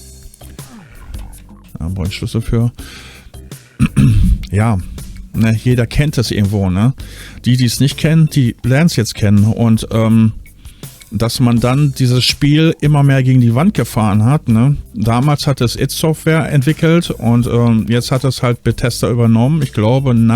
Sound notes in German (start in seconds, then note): 3.7 räuspern